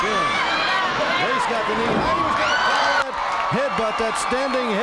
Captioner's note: crowd cheers